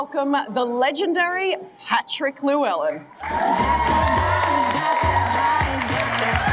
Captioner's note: audience cheering